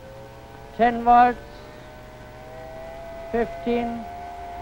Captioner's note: propeller droning